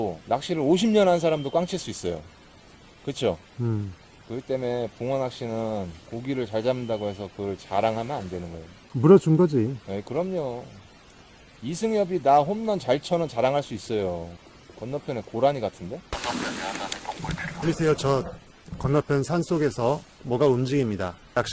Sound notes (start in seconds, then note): 16.9 radio